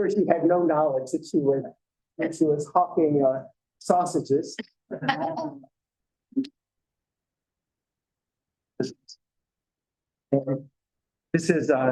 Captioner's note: laughter